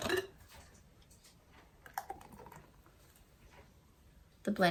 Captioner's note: liquid pours